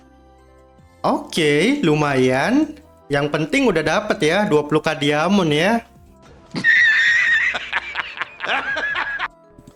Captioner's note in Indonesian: tertawa